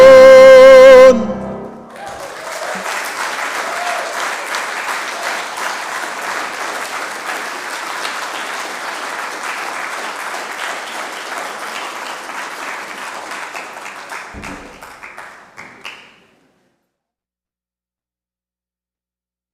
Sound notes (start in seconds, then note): 2.2 audience clapping